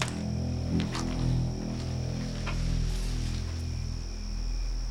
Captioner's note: branch snaps